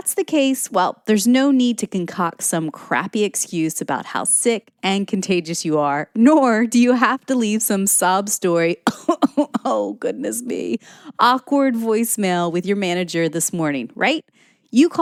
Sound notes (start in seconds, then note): 8.8 cough, cough